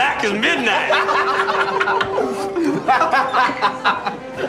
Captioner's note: laughing